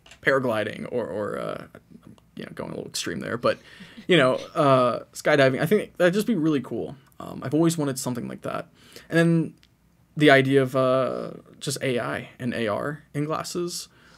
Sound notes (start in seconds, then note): 3.4 chuckles